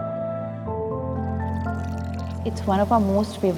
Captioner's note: water pouring into the pool